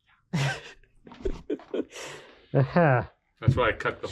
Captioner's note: speaker laughing